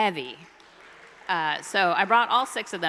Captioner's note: audience applauding